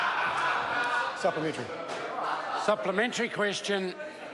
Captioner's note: members laugh